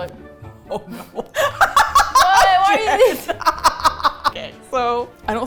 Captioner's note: laughs